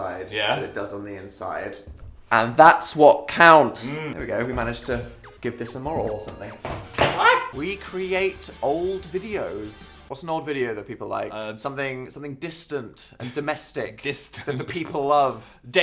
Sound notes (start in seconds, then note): 6.5 Dan clattering, Phil yelping